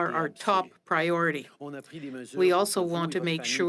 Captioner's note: speaking French